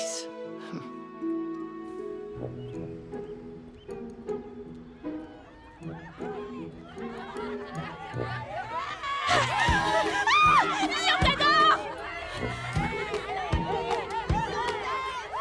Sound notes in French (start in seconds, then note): 0.5 Becca soupire; 2.1 gazouillis d'oiseaux; 4.7 acclamations, cris